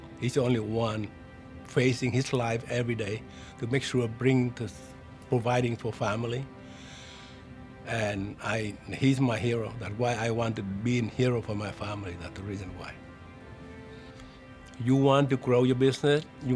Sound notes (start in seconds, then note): 6.7 heavy sigh